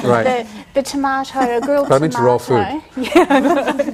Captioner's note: all laugh